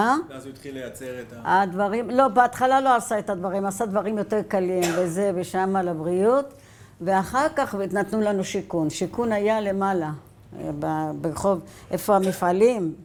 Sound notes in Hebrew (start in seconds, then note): 4.8 עיטוש